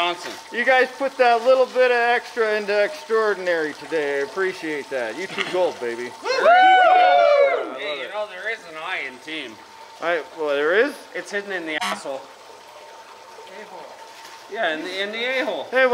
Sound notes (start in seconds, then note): 6.2 cheering; 11.8 honk